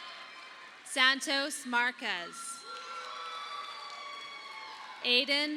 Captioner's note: audience applauding